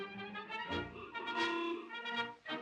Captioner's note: horn honks